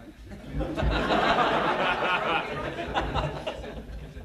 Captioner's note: laughter